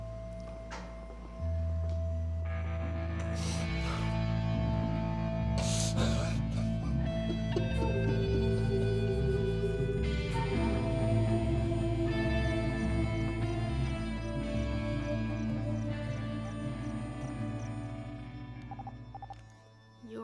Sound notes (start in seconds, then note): 5.6 crying; 16.1 pager beeps